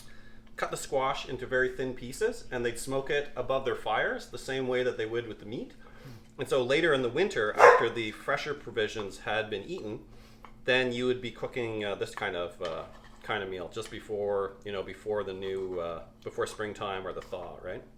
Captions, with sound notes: cut a squash into very thin pieces, and they would smoke it above their fires the same way that they would with the meat. And so, later in the winter after the fresher *dog barks* provisions had been eaten, then you would be cooking this kind of kind of meal, just before - you know before - the new before Springtime or the thaw, right?